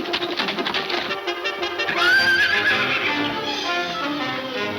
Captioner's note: horse neighing